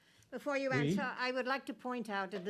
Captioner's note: speaking French